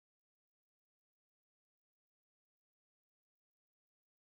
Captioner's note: none